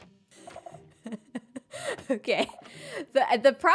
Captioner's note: laughs